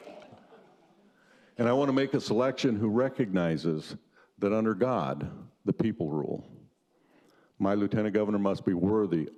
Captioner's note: laughter